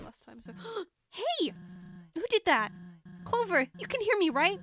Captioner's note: gasps